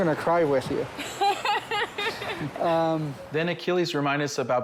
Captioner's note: laughs